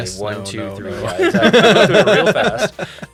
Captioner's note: laughs